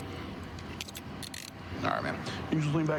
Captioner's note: handcuff closing